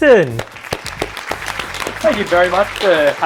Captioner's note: applause